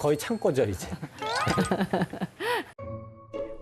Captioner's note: just laughs... haha